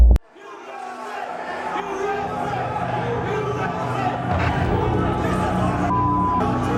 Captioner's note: chanting